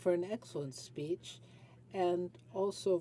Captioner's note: speaking French